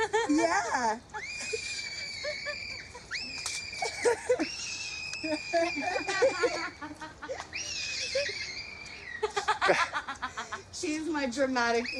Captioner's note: screaming